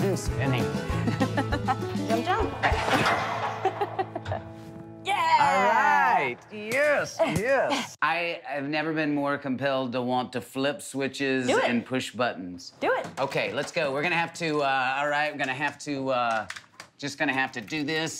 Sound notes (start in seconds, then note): 1.0 laughs